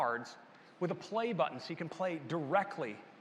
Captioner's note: none